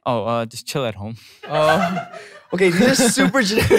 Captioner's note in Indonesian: tertawa